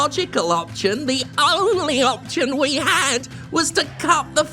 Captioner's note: warped audio